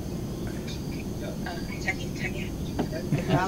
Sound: Korean

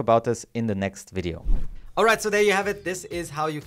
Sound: air whooshing

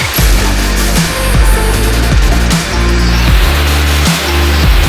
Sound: wind rushing

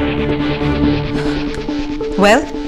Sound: sighs

